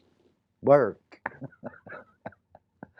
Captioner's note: laughs